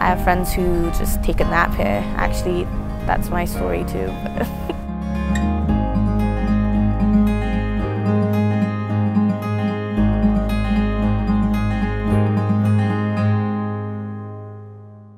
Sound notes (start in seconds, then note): 4.1 laughs; 5.8 soft music